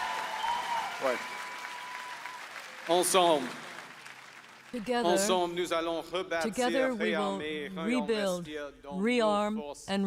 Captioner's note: applause